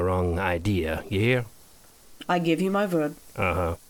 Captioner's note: accented